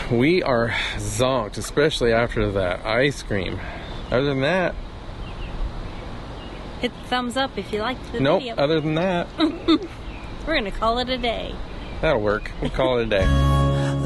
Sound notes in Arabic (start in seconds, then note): 9.3 يضحك; 13.2 Outro music